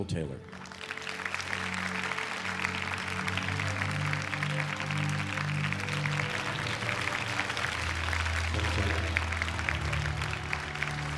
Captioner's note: applause